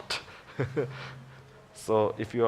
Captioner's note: laughs